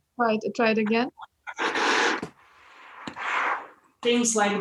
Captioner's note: bellow striking